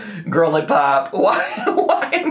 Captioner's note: laughs